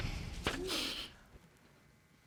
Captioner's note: sighs